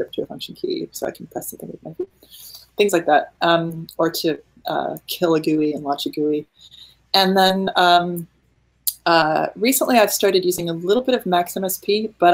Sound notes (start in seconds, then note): 4.7 speaking in foreign language